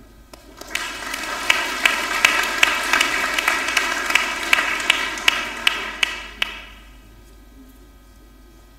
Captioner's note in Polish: oklaski